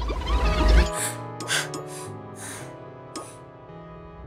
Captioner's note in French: respiration haletante